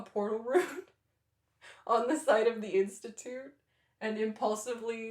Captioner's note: laughter